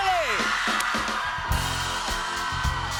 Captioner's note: cheers and applause